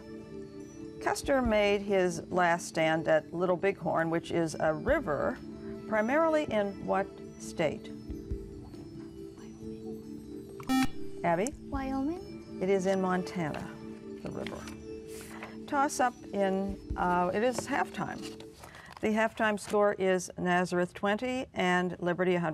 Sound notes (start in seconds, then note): 7.7 whispering; 10.7 buzzer